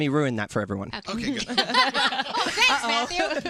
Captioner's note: laughter